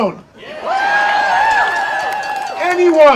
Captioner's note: audience cheering